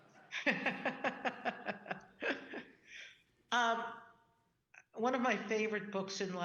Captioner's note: audience laughing; Justice Sonia laughing